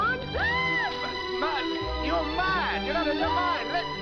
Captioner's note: screaming